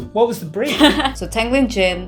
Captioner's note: laughter